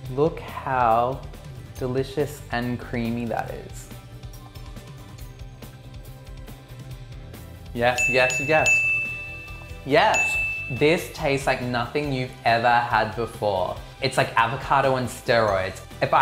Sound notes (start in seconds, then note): 7.8 bell chiming; 7.9 bell chimes